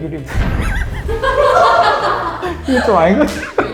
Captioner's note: laughter